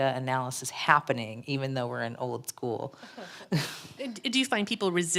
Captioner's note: laughs